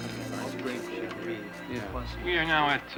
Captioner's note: chattering